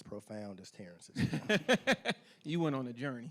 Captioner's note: laughing